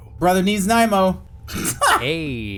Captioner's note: laughs